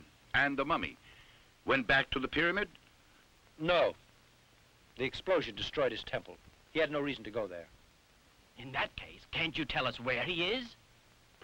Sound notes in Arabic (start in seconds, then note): none